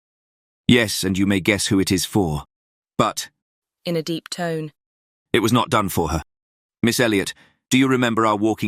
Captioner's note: in a deep tone